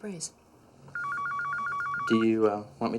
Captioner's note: phone rings